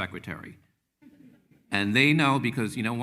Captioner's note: attendees chuckling